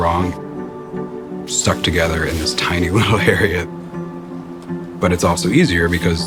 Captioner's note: laughs